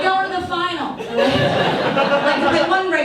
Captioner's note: audience laughs